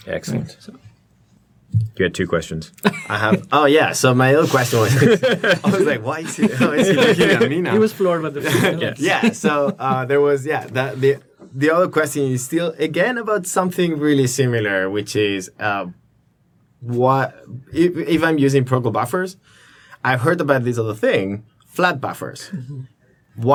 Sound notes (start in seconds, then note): 4.6 laughter